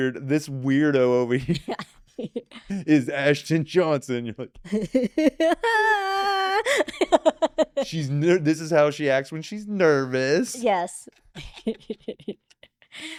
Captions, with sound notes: This weirdo over here is Ashton Johnson. (laughing) This is how she acts when she's nervous. Yes.